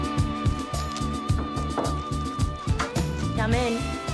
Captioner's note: door knocker banging